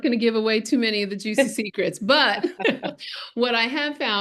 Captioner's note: laughing